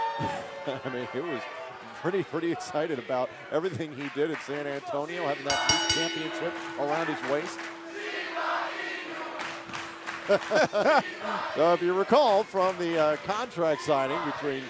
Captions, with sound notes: MEAN HE WAS PRETTY, PRETTY EXCITED ABOUT EVERYTHING HE DID AT SAN ANTONIO. [BELL RINGING] HAVING THAT CHAMPIONSHIP AROUND HIS WAIST. [FANS CHANTING] >> IF YOU RECALL FROM THE